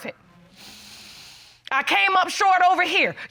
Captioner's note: breathes deeply